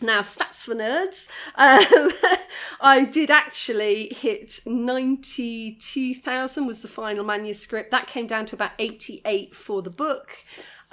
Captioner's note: laughing